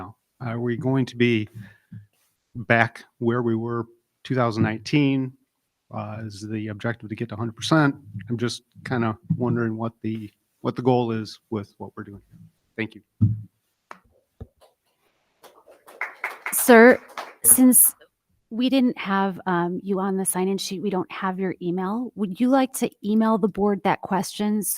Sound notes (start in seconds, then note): 15.4 audience clapping